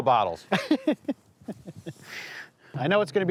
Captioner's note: laughs